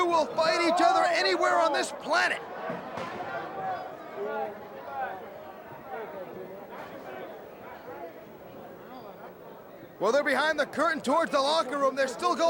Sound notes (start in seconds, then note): 2.2 crowd chatter